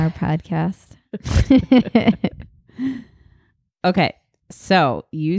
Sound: laughing

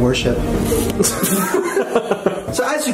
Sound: Chris and Shane laughing

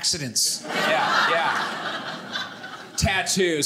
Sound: audience laughing

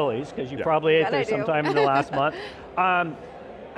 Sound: laughs

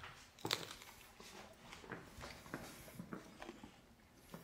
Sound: food crunching

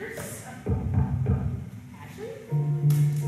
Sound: knock on door; gentle piano underscore

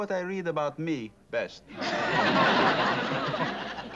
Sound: laughter

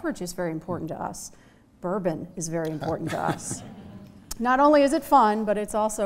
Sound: laughter

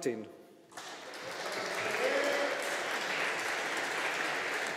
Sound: audience applauding

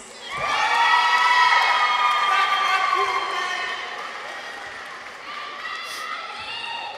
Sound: people cheer; audience applauds

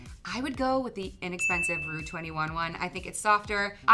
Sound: bell rings

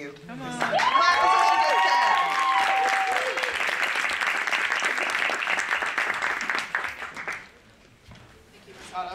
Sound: applause

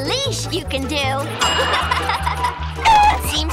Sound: laughing

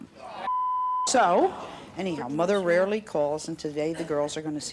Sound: groaning

